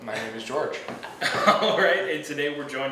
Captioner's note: laughs